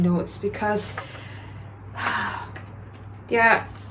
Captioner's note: sigh